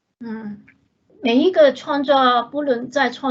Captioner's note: Mandarin